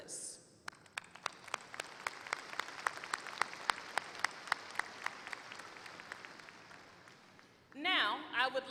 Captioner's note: applause